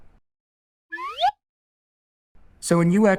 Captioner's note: slide whistle blows